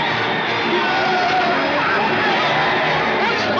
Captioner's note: crowd cheering and applauding loudly